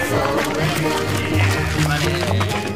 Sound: whack

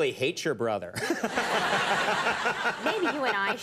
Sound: crowd laughing

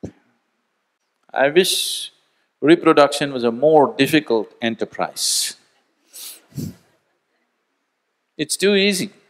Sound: laughs

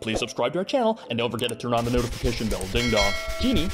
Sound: ding-dong

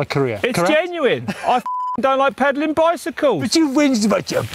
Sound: beep

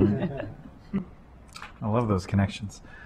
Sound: laughter

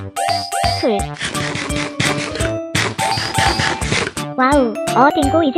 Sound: eating

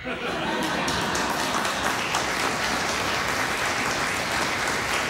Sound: laughter, applause

